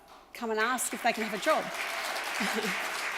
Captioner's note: audience applauds